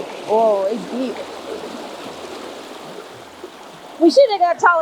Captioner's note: creek water rushing